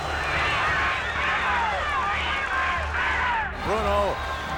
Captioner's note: audience cheering